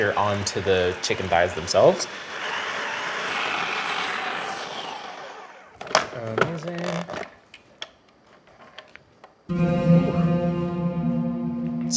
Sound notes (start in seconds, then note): 3.4 processor whirring; 9.5 dramatic music